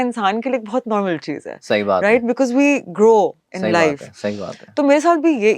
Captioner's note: sound of clearing throat